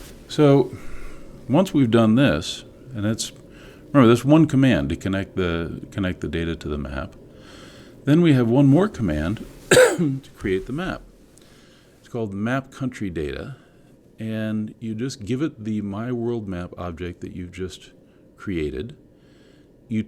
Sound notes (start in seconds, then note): 9.6 cough